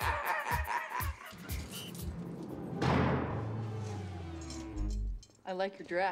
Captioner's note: cackles